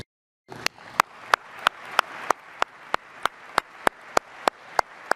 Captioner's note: audience applauding